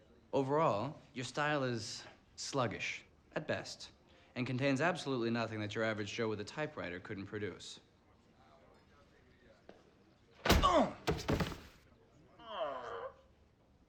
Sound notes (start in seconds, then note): 10.6 Jeremy moans and falls